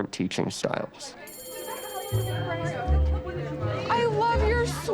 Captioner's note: bell rings, indistinct conversations